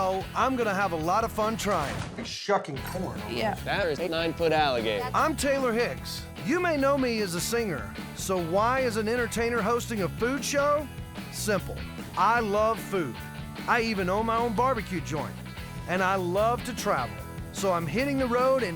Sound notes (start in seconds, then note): none